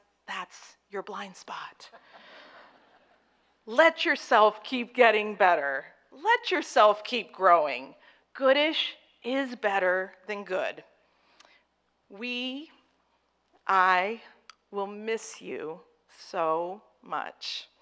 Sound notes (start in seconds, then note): 2.0 audience chuckling